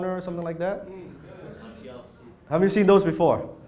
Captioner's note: audience agrees